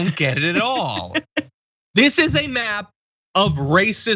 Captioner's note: laugh